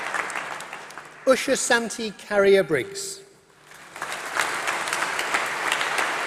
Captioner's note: applause